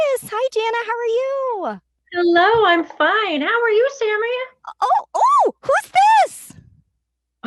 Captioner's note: as finger puppet